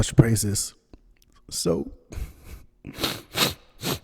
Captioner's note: crying